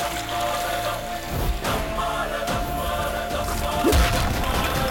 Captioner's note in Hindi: तालियाँ